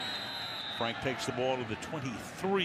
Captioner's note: whistle blowing